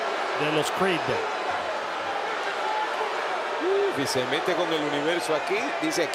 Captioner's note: applause